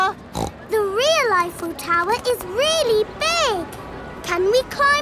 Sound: snorts

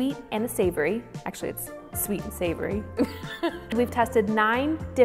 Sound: giggles

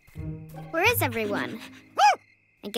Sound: barks

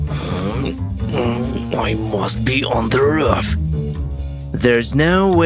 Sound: grunting

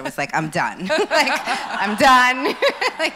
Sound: laughs

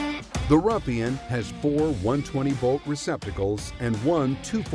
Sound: voiceover

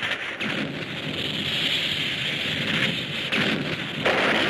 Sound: electricity crackles; explosions booming

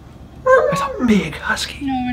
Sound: dog whining

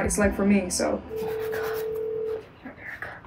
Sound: phone ringing

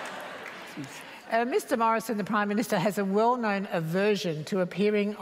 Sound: laughter

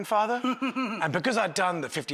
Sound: laughing

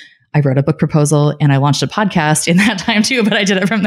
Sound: laughing

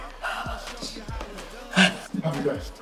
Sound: Malik sighs

